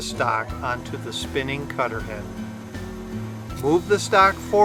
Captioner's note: machine whining